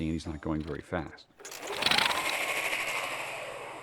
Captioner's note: whirring softly